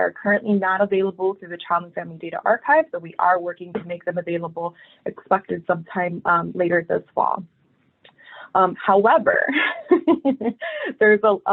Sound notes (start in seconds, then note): 9.4 laughs